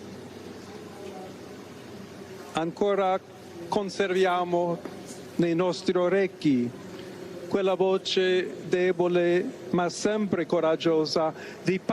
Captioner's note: speaking latin